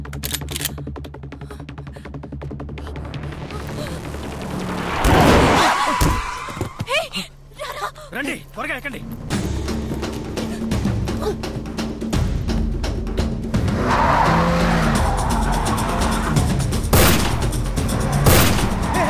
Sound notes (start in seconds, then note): 0.0 Gun cocks; 5.1 Brakes squeal; 16.9 Gunshot